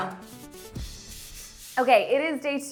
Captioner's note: paint brush swishing